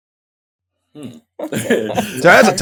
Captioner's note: laugh